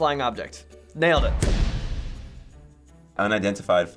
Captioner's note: stutters; loud thud